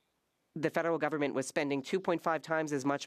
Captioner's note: speaking French